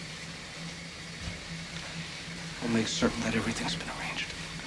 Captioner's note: steam hissing